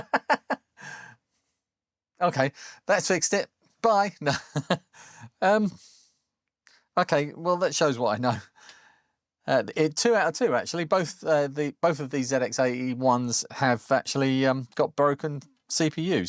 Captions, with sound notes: (Laughs) Okay, that's fixed it. Bye. Okay, well, that shows what I know. Two out of two, actually. Both of these ZX80 ones have actually got broken CPUs.